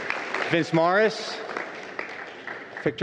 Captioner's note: applause